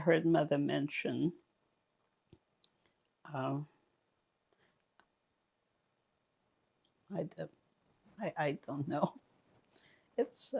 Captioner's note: pauses 6 seconds